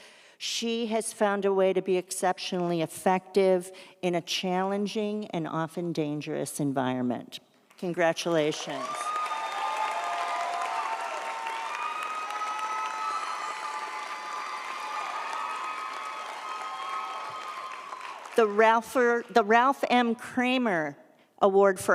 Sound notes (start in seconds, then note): 8.6 audience applauds; 8.7 audience cheers